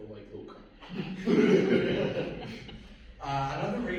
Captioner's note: laughter